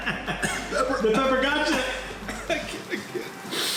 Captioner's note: laughs; coughs